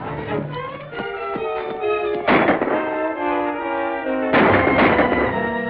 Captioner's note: gunshots